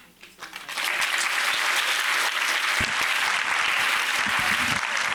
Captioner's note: audience clapping